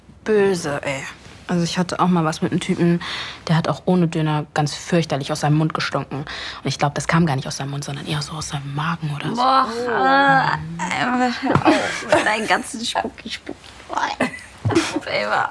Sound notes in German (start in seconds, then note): 11.3 Angeekelte Laute, Lachen